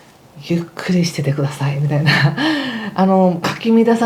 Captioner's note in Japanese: 笑い